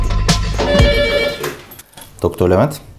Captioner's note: telephone rings